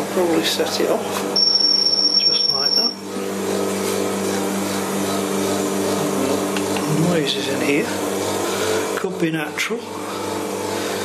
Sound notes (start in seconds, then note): 1.3 machine beeping